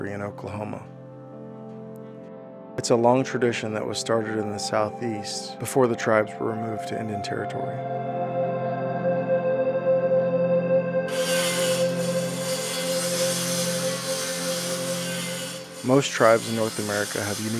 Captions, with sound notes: in Oklahoma. It's a long tradition that was started in the southeast before the tribes were removed to Indian Territory. [sawing] Most tribes in North America have unique burial